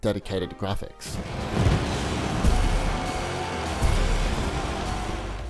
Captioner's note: racing game sounds